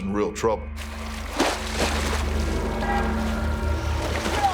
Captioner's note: splashing